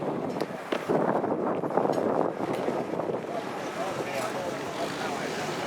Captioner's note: people chattering